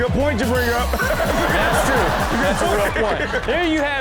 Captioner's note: everyone laughs